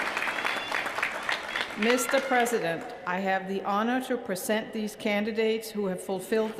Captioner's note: cheers & applause